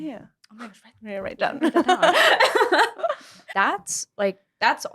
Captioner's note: laughter